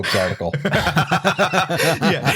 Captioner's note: laughter